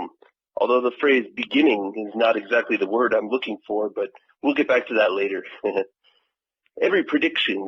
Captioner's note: laughs